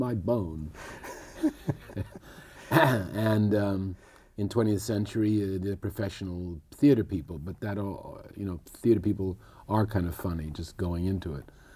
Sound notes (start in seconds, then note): 2.7 laughter